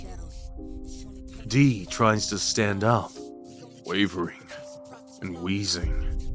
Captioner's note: D. tries to stand up, wavering, and wheezes